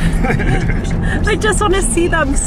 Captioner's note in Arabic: يضحك